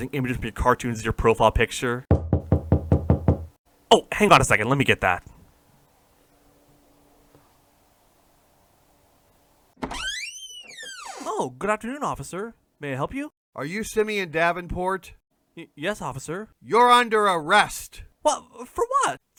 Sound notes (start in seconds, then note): 2.1 knock on door; 9.8 door opening